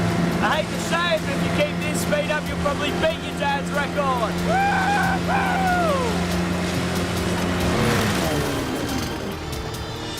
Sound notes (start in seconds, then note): 8.2 engine sputters